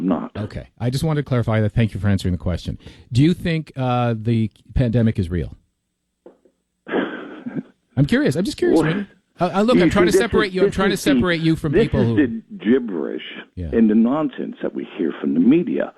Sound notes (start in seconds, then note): 6.9 chuckle